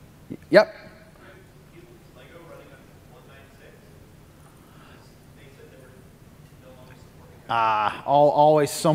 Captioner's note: off mic